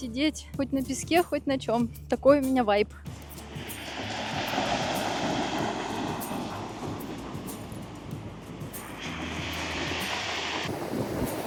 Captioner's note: sounds of the sea